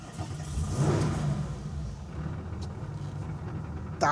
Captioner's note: engine revs